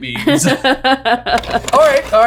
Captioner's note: laughing; tape clicks